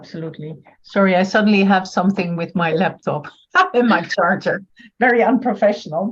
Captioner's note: laughs